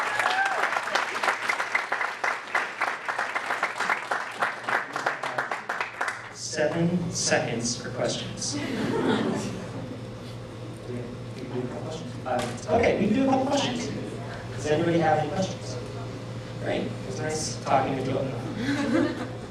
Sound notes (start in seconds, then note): 0.0 applause; 6.2 jokingly; 8.5 laughter